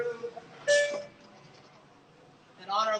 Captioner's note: sensor beeping